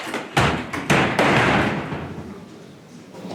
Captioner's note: doors shut